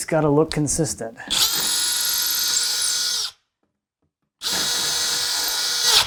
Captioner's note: tool whirring